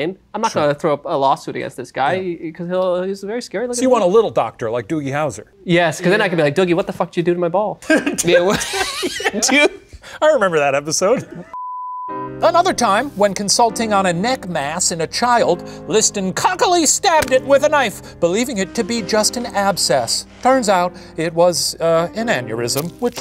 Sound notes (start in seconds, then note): 7.8 Professor and Ryan laughing; 11.5 beep